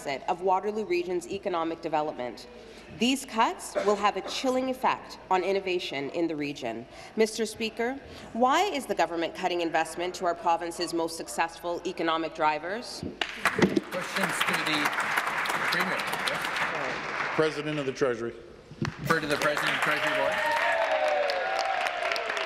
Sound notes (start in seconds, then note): 16.2 applause